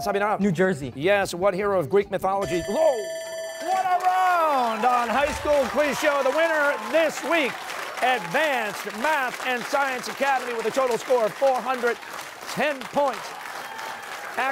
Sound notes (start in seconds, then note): 2.4 bell rings